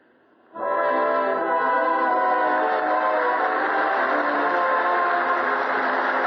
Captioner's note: applause